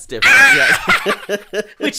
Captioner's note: scream; giggles